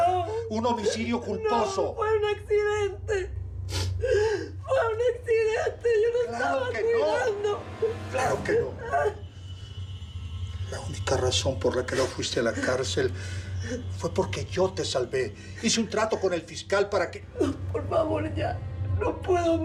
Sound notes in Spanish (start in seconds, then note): 3.9 llanto